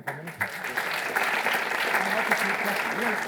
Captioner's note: audience applauding